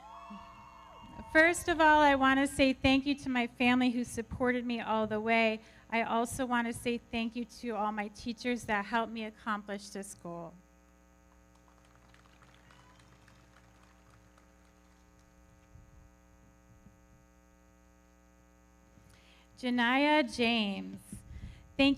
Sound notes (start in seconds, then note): 0.0 audience cheering; 11.4 everybody clapping